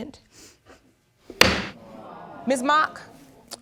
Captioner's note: thump